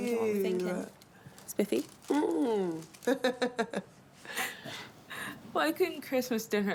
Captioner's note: laughs